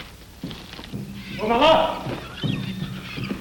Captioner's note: birds Chirping